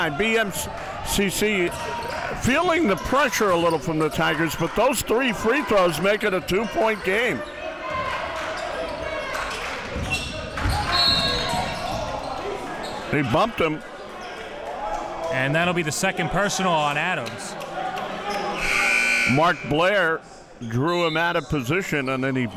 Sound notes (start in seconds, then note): 8.0 crowd cheering; 10.9 whistle blows; 18.6 buzzer sounds